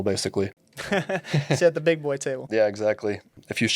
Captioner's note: chuckles